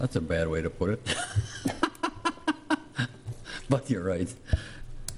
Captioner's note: laughing